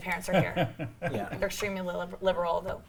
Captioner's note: laughs